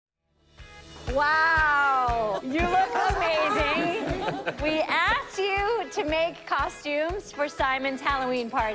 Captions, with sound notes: - Wow. You look amazing. [laughter] We asked you to make costumes for Simon's Halloween party.